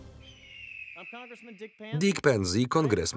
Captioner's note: voiceover